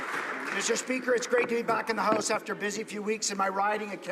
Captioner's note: some Applause